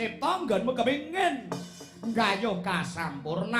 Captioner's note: non-english speech